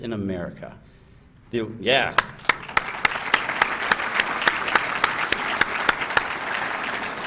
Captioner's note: applause